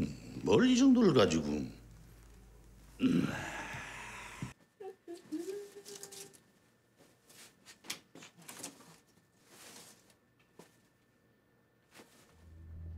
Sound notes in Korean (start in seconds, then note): 4.8 콧노래 소리